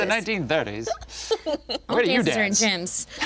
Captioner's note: group laughing